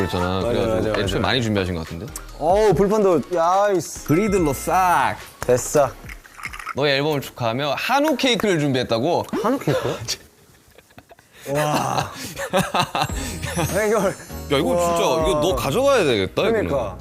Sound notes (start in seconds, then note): 9.4 cracks up